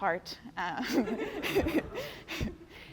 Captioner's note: laughter